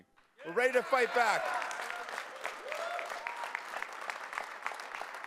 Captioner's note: cheering, applause